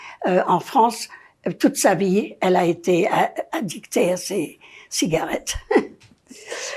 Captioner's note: laughing